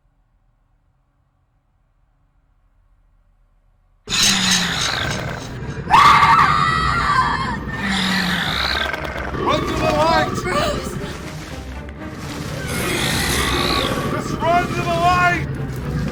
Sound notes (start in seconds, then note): 3.8 creature snarling; 4.0 Alison screaming; 12.2 creature growling; 12.2 intense music